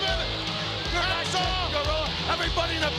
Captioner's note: mumbling